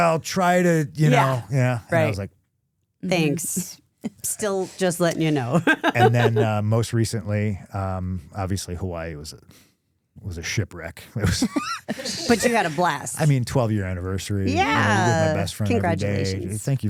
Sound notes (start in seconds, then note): 5.1 laughing